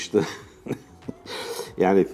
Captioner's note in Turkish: gülüyor